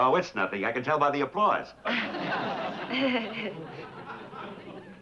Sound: laughs

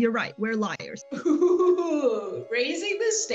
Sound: laughs

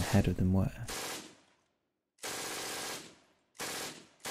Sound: gun firing

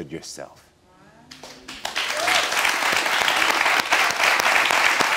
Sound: audience applauds

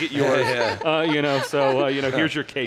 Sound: laughs

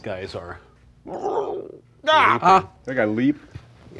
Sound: monsters growling

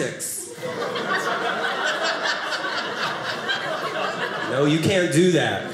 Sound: audience laughing

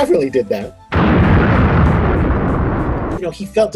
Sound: explosion

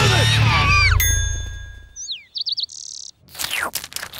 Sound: chirping

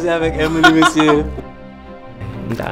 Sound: laughing

